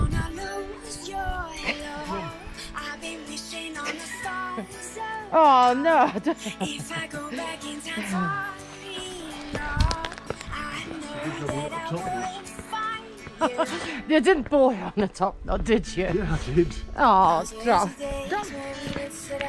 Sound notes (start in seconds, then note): 5.8 laughs